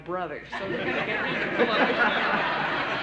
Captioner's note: laughter